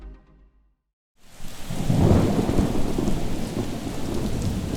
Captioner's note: rain pattering; thundering